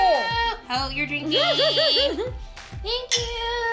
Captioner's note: laughing